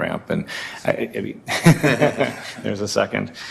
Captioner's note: laughter